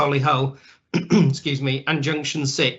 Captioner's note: clears throat